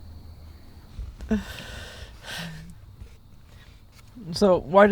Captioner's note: chuckling